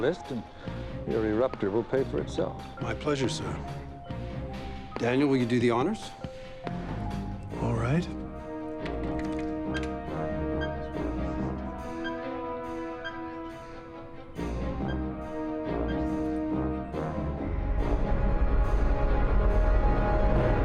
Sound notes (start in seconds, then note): 9.4 machine beeping